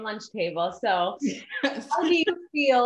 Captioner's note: laughs